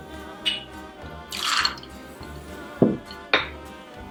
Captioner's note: pouring